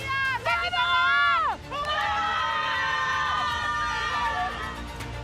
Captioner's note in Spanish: gritan